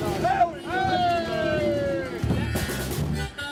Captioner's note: cheering